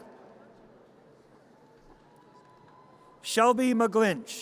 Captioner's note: audience cheers